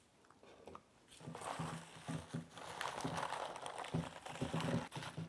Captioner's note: bok choy rustling